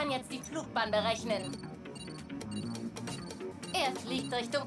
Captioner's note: beeping